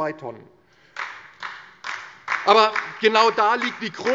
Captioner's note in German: Beifall DIE LINKE